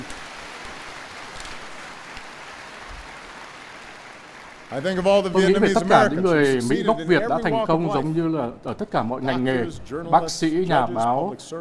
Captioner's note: applause